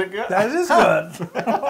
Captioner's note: laugh